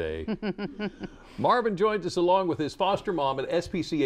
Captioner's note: laughter